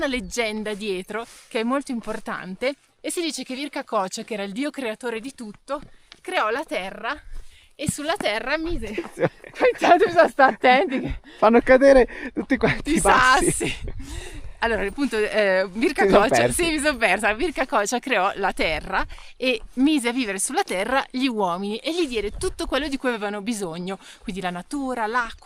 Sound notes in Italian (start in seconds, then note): 8.9 risate